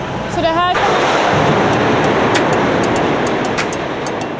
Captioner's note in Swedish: Högt ljud från lastning